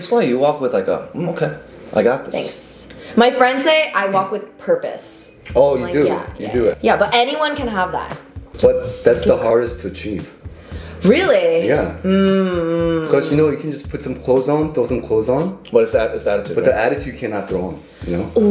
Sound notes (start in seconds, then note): none